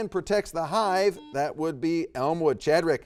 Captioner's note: buzzer dings